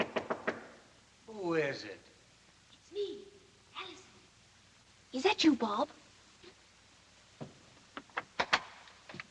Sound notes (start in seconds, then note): 0.0 knocks; 3.0 Alison Whispers